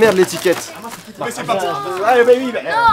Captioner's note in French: Les gens râlent